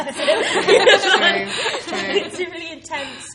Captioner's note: laughing